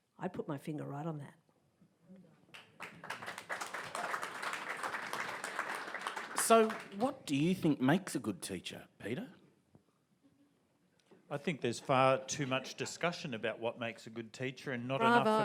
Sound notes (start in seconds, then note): 2.5 audience applauds